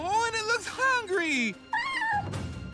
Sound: meowing

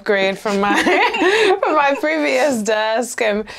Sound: laughs

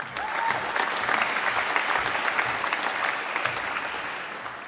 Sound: applause

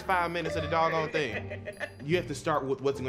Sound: laughing

